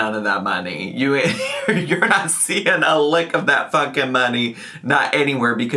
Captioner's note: laughs